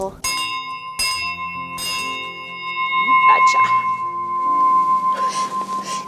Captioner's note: bell rings loudly